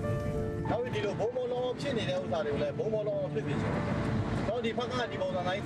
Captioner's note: speaking foreign language